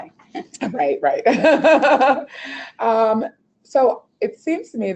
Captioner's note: laughing